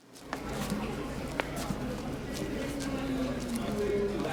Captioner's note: shoes tapping